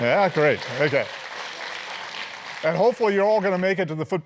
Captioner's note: applause